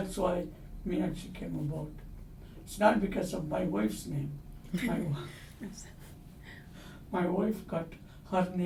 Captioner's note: all laugh